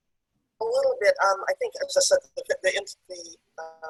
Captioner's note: audio is choppy